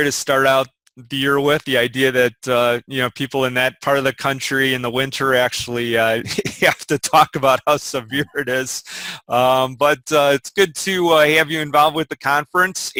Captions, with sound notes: to start out the year with, the idea that people in that part of the country in the winter actually (laughs) have to talk about how severe it is. But it's good to have you involved with the conference,